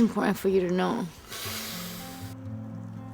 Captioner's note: Tom inhales; soft music